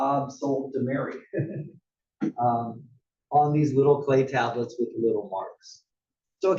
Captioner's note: laugh